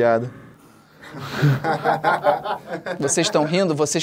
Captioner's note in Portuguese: risadas